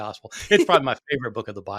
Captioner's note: laughing